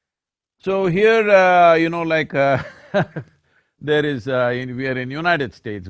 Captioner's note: laughs